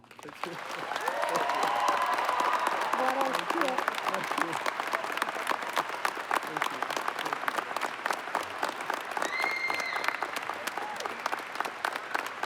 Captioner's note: applause